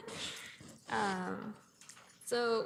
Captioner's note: laughs